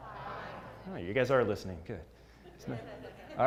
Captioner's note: laugh